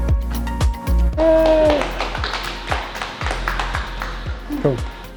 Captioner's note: clapping